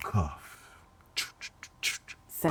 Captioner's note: beatboxing